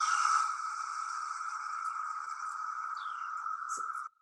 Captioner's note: audio hissing